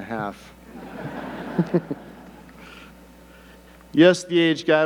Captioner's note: audience laughing